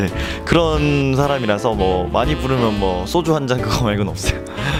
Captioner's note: laughs